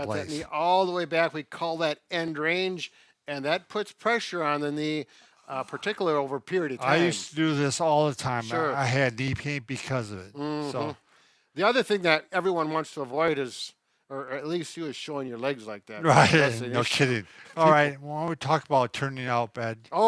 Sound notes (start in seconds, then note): 16.0 laughing